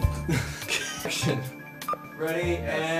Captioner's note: laughing